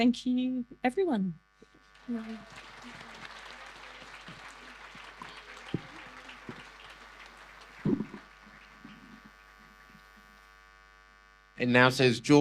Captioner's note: audience applause